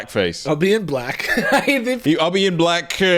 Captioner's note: laughing